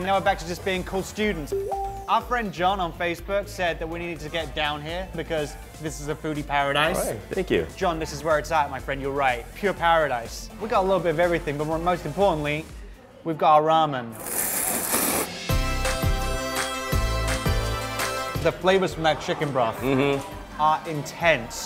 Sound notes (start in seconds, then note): 13.8 upbeat music; 14.2 slurping